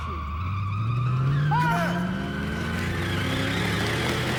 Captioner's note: tires screech